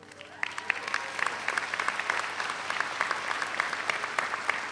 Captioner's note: audience applauds